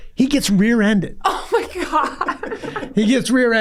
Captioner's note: laughs